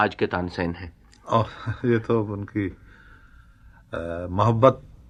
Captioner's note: laughs